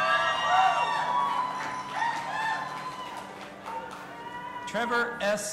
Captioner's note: audience applauding and cheering